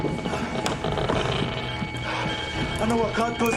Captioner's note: device crackling